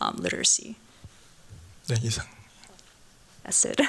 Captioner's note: speaking japanese